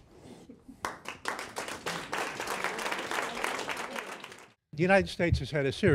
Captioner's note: audience applauding